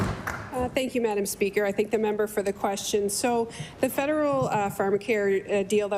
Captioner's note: applause